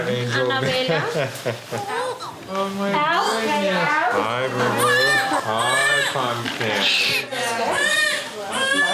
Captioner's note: laugh